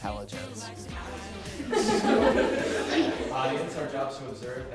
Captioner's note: chattering; laughing